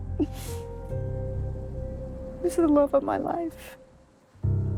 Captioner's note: crying